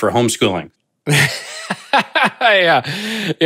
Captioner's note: laughing